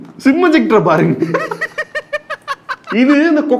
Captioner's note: laughs